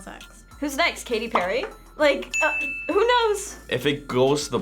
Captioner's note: ding